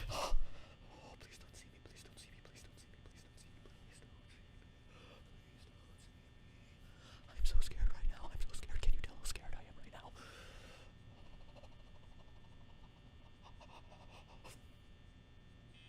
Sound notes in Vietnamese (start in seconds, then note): 0.3 Thì thầm; 10.1 Thở ra